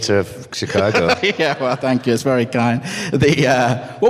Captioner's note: laughs